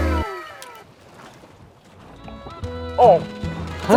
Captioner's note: chews slowly